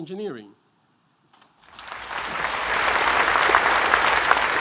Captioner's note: applause